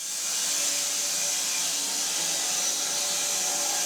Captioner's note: saw whining